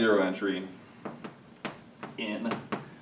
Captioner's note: chalk tapping